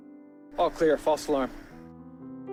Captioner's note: voiceover